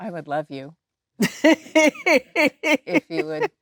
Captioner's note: Jennifer laughing